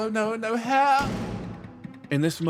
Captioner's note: door Slam